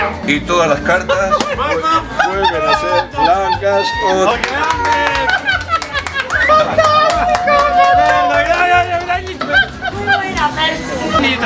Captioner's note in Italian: Applauso